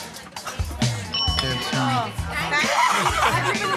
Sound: ding

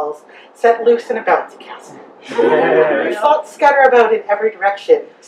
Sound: audience giggles

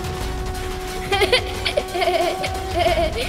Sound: laughs

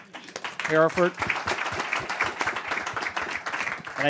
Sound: applause

